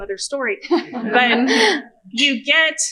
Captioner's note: laughter